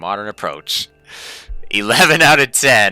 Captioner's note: inhaling